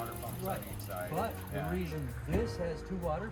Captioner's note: engine whirring